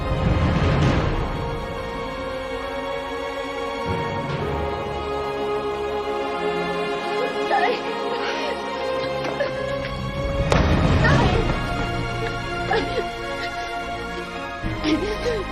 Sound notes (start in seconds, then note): 0.2 dramatic music playing; 10.4 thuds; 12.6 crying